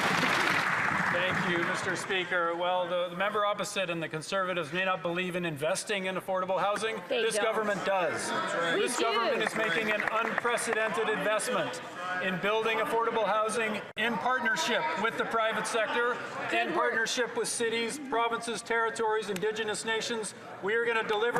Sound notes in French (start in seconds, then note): 6.5 voix de l'interprète